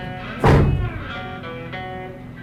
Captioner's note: passenger getting out of car; door slammed